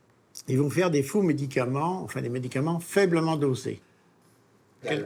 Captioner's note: French spoken audio